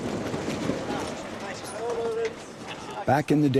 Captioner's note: children chatting